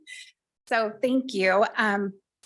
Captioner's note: laughing